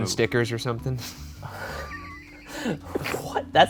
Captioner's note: laughs